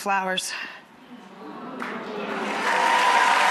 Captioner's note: audience oohing; audience cheering